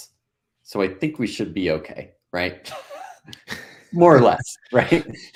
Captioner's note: laughing